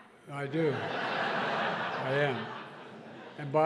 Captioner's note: laughter